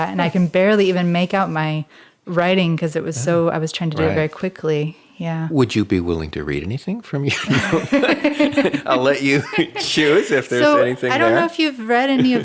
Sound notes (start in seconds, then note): 7.2 laughs